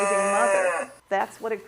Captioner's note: mooing